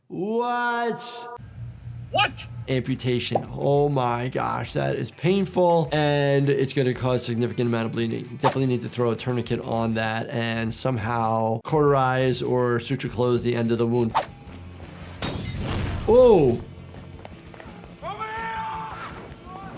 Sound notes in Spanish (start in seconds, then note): 15.0 el cristal se rompe; 15.4 el fuego ruge